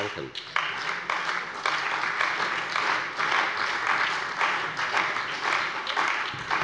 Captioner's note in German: Allgemeiner Beifall